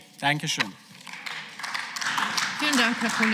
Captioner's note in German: Beifall